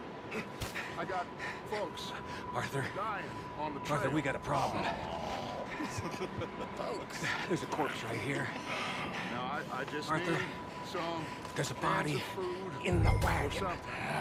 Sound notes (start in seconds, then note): 3.5 quietly